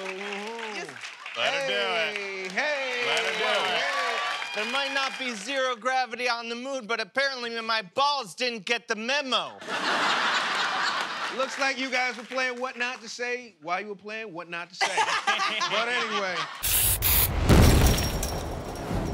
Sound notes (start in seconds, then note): 3.1 cheers and applause; 9.6 laughter